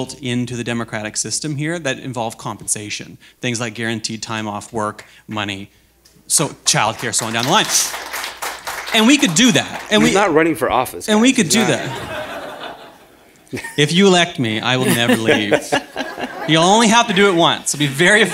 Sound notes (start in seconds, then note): 10.1 applause